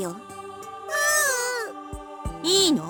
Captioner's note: whimper